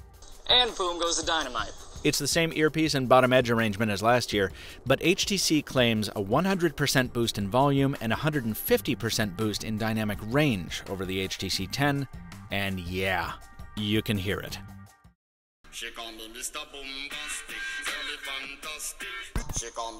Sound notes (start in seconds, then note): 0.9 voice On Phone; 2.5 voiceover